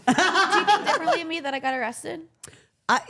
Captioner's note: laughing